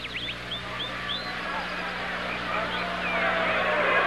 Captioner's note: crowd Chattering